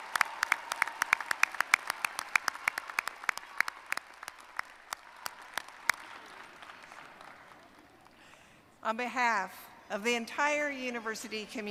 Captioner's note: cheers and applause